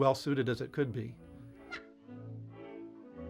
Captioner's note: squeak